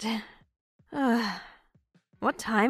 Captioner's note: sighs